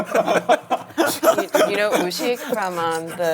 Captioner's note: cracking up